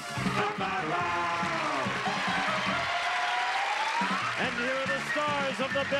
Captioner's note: cheers and applause